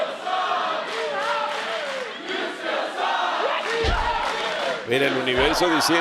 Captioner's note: applause